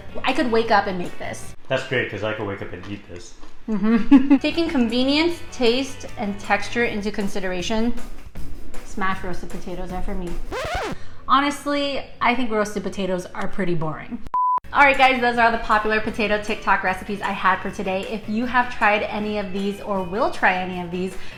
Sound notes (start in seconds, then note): 10.1 record screeches; 14.3 beeps